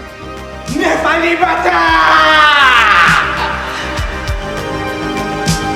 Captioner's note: Dr. Ravi shouts in foreign language; slow electronic music